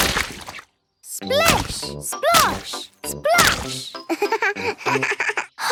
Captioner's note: laugh